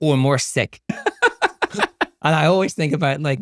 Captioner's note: laughs